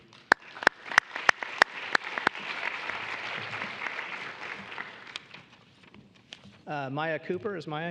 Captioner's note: applause